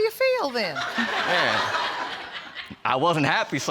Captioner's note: audience laughs